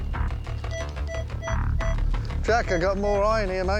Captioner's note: beeping